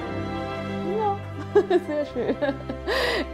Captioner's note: laughs; idyllic music